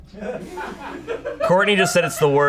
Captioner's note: audience laughing